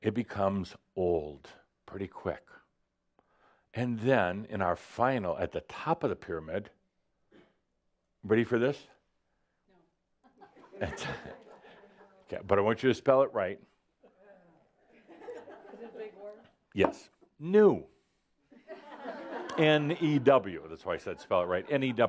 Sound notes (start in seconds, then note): 10.7 some chuckles; 14.8 more chuckles; 18.5 laughter